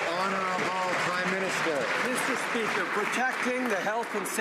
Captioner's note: some Applause